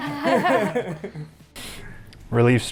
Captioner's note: all laugh